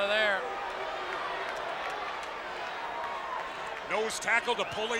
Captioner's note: audience cheers